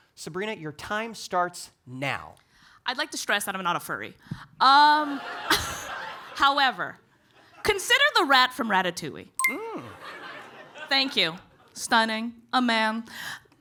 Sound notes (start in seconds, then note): 5.2 audience laughing; 9.8 audience laughing